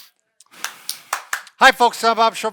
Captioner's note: clapping